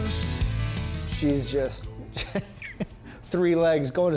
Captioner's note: laughing